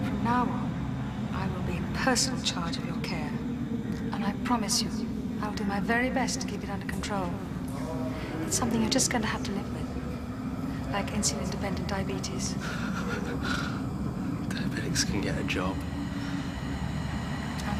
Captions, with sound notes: From now on, I will be in personal charge of your care. And I promise you, I'll do my very best to keep it under control. (VOICE ECHOING) It's something you're just going to have to live with, like insulin-dependent diabetes. (LAUGHING) Diabetics can get a job.